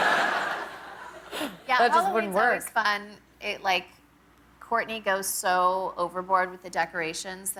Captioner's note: laughter